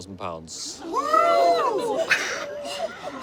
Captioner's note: crowd gasps